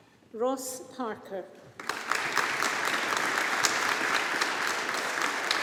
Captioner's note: audience applauding